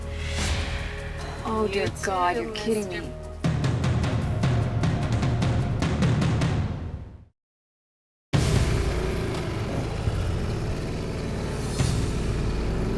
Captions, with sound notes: Oh dear God, you're kidding me. (suspenseful dramatic music) (motorcycle revving)